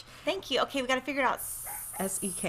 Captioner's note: hisses through teeth